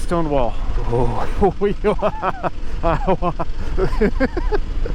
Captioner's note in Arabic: يضحك بجنون